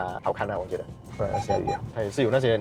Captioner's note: beep beep beep